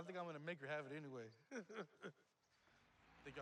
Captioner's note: laughs